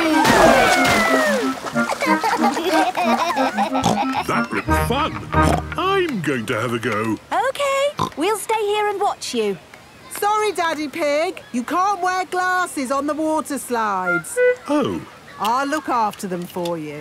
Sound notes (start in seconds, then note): 1.8 giggling; 3.7 snorts; 5.4 snorts